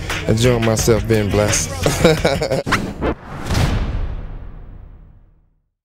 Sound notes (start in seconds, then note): 1.6 Suge laughing